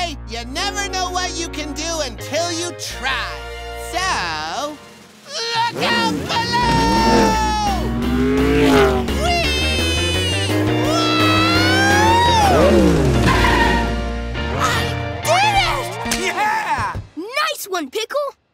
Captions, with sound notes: You never know what you can do until you try. So... Look out below! Wee! [screaming] - I did it! - Yeah! Nice one, Pickle!